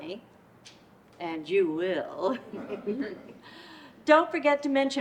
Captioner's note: laughs